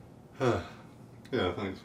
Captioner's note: sigh